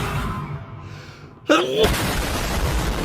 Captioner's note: a-choo